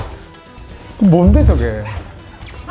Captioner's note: laughing too hard to answer